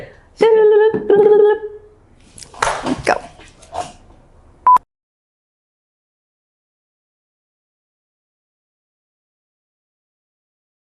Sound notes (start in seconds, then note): 2.5 hand claps; 4.6 digital beep